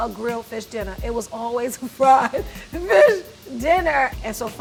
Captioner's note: laughs